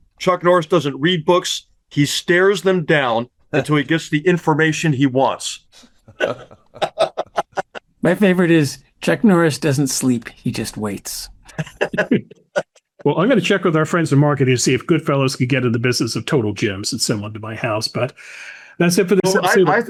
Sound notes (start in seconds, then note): 6.0 laughing; 11.5 all chuckling